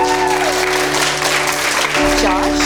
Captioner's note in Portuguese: Aplausos